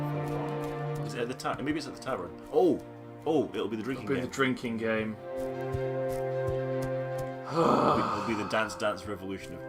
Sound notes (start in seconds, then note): 7.4 sighs loudly